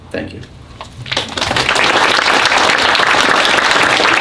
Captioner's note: applause